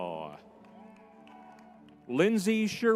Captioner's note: crowd cheering